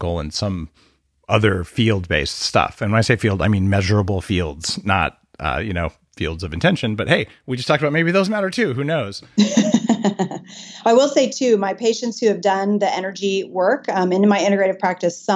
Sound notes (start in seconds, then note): 9.4 laughing